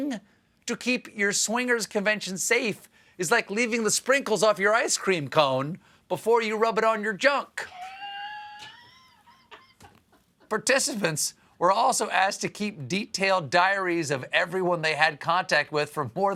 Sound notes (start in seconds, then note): 7.6 laughter